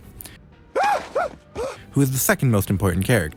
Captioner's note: screams